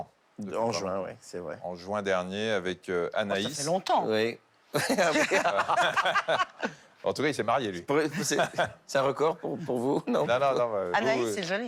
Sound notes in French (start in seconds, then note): 4.7 rires